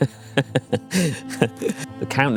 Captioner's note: laughing